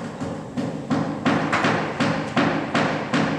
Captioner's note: hammering in the background